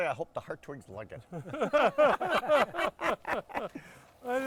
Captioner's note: group laughs